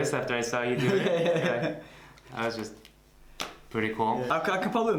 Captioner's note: laughter